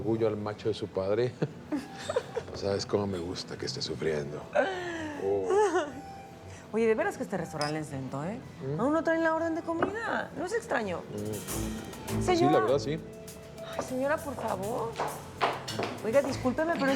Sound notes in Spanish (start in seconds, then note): 1.3 Risas; 5.4 Risas